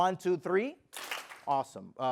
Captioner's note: clap